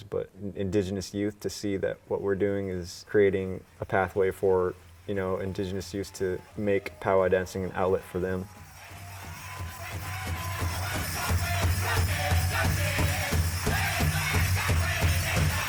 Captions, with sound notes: but indigenous youth to see that what we're doing is creating a pathway for, you know, indigenous youth to make Powwow dancing an outlet for them. (rhythmic drum music) (people cheering)